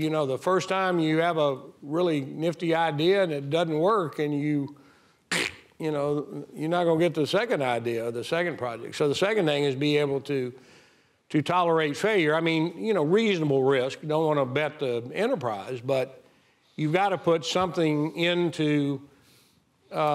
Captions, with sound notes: The first time you have a really nifty idea and it doesn't work and you, (Fred imitates crack) you're not gonna get to the second idea, the second project. So the second thing is be able to tolerate failure. I mean, you know, reasonable risk, don't wanna bet the enterprise, but you've gotta put something into R&D